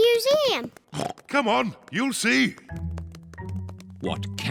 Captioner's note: oinks